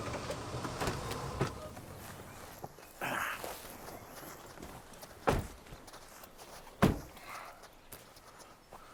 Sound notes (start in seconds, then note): 3.0 Bill grunts